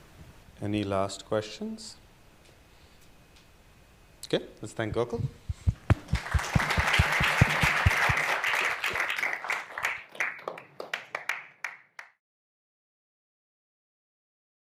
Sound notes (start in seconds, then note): 5.8 applause